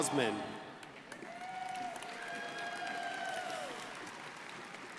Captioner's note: crowd applauding